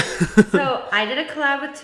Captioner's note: laughs